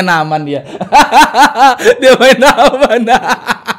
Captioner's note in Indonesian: ketawa